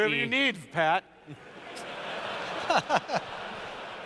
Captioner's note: laughter